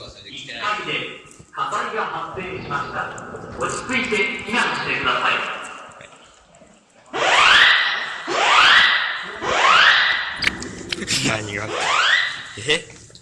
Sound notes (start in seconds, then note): 7.1 siren